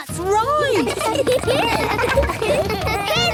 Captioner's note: laughter